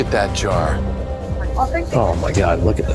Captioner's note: chatter